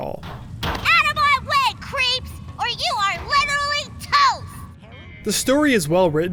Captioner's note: girl yelling